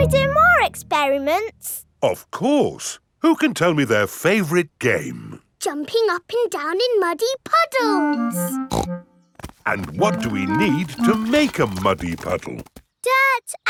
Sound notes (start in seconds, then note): 8.7 snorts